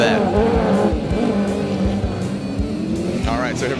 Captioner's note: engines roaring